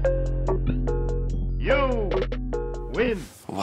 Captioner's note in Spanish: voice-over